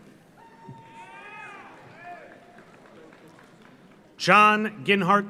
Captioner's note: audience cheers; audience applauds